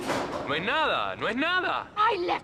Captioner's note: speaking in foreign language